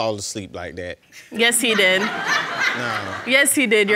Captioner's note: audience laughing